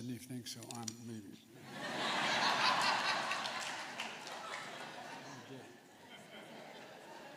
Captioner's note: laughter